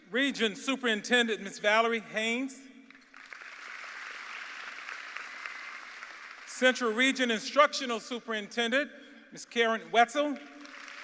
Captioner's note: applause